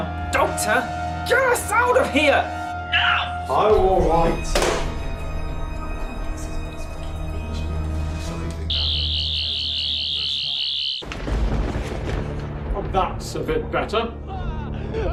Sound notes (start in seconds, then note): 8.6 buzzing; 11.0 thunder sounds